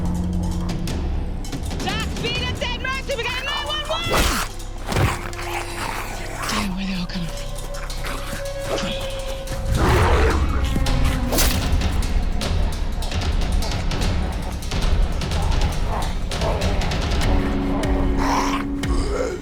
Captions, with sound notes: - Doc, speed up that mercy! We got a 911! Damn, where are they all coming from? Come on. [zombie growling]